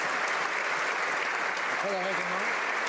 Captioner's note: applause